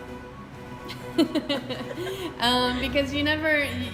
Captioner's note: laughs